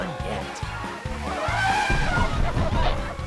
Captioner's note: elephant trumpets